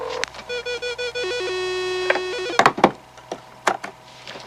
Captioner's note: phone dialing; computer connecting